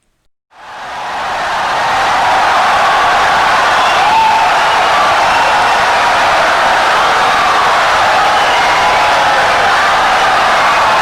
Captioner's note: wild applause and cheering for 17 seconds